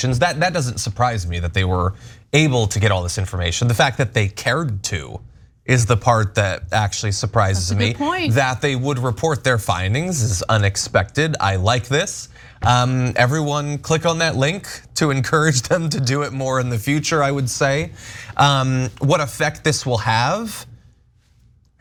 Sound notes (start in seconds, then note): 15.6 laugh